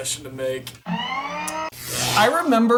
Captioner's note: mechanical noises